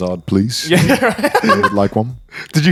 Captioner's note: laughing